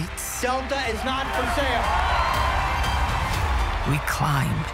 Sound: crowd cheering

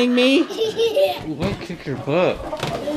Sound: kid laughing

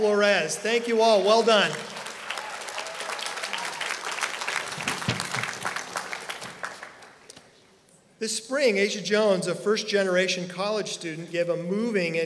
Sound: applause

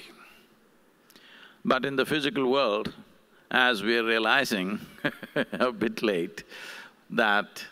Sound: laughs

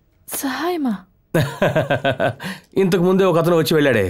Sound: laughs

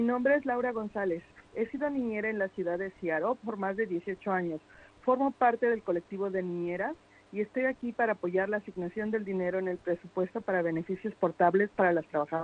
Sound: speaking foreign language

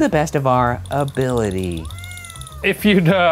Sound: cat meows

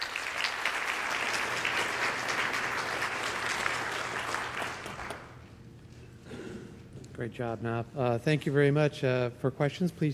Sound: applause

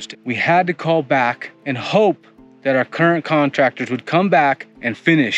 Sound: none

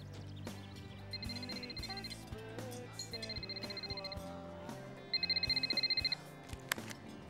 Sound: phone ringing

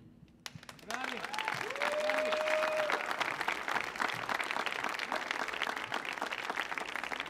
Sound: audience applauds; audience cheers

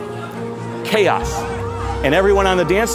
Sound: people shouting

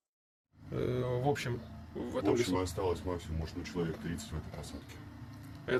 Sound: interrogating a POW in Russian

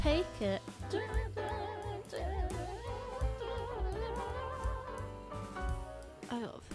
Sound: humming, distorted

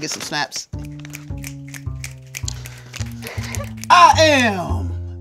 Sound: jazz music; all snapping

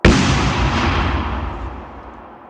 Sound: explosive sound

